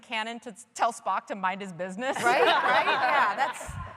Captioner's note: laughter